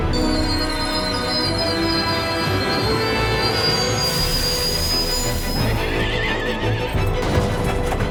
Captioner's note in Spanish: Chirrido del tren en los rieles; Estruendo